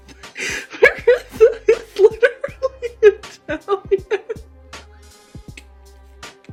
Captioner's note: through laughter